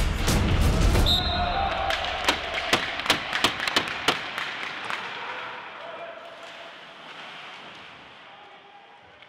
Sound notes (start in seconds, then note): 1.0 whistle blowing; 1.9 sticks banging